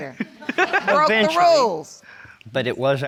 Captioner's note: audience laughs